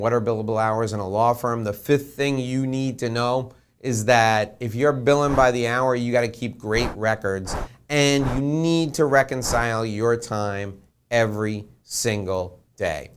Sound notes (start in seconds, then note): 5.2 air whooshing